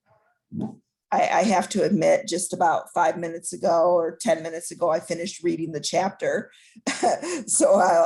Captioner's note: laughter